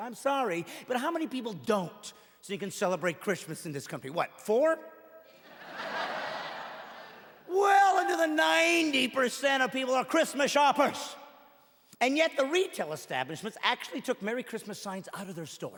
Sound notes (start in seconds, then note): 4.4 laughing